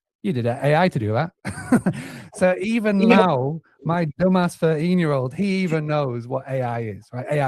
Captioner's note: laughs